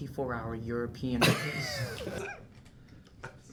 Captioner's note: snickers